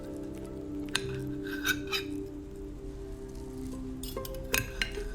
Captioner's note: sound of silverware